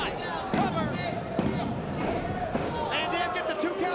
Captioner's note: mat slapping